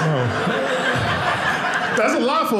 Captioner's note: audience laughing